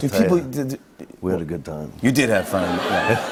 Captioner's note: laughter